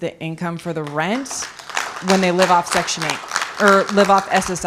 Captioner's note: applause